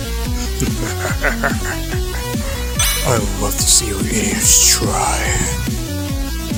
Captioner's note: chuckles